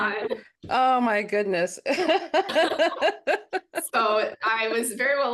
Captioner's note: both chuckling